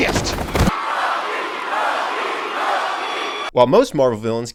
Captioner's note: fans cheering